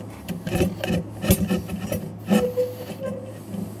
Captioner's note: screwing noises